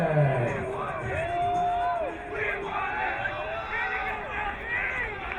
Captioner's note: crowd cheering